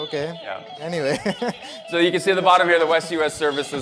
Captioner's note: laughter